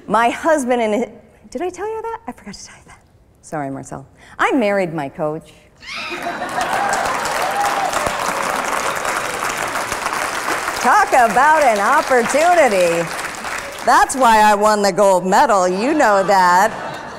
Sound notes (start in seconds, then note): 6.2 applause; 15.9 laughter